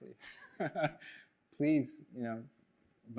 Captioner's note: chuckles